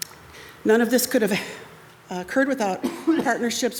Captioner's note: attendee coughs